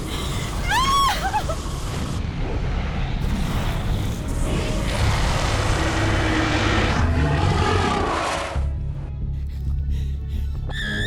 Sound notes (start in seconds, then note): 0.6 Connie screams; 1.4 fire blazes; 4.9 dragon roars